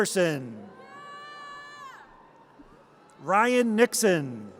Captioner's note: audience cheers